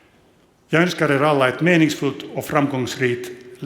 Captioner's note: speaks Swedish